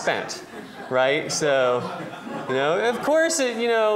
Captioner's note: laughter